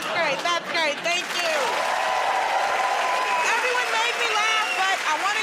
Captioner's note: cheering and applause